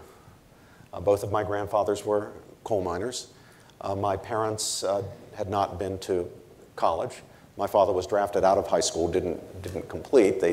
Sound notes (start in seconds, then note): none